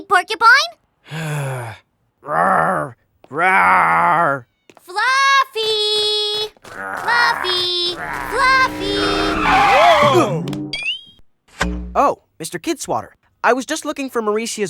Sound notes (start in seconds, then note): 1.1 sighs; 1.3 growls; 6.7 todd growls